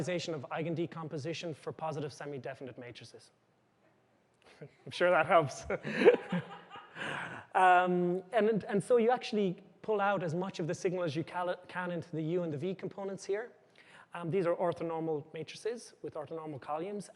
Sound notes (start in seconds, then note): 5.6 chuckles; 7.5 laughter